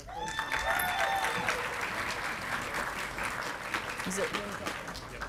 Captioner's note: audience clapping and cheering